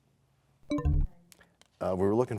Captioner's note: bell chimes, time expires